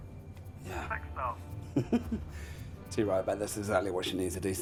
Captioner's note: laughing